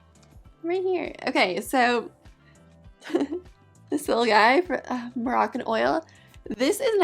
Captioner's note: chuckles